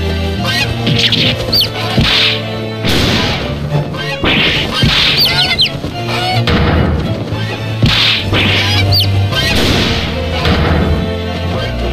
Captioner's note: more screaming, yay!